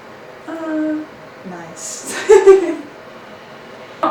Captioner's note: laughs